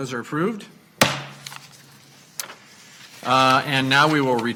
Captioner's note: gavel bangs